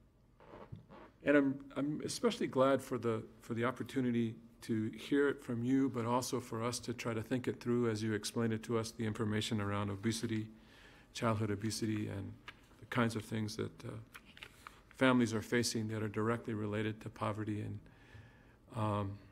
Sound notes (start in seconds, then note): none